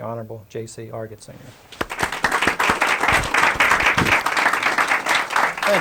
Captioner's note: applause